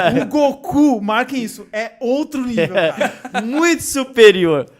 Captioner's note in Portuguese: risos